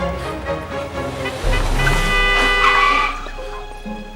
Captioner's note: brakes screech; loud honking